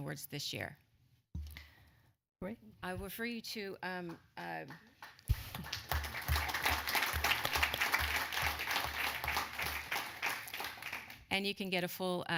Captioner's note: applause